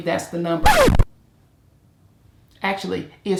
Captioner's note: screeching